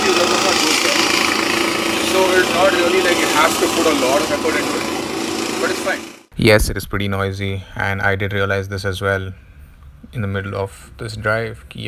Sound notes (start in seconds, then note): 3.8 annoying vehicle noise! 😵